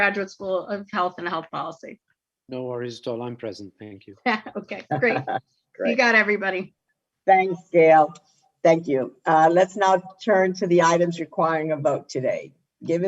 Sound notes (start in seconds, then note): 4.4 laughs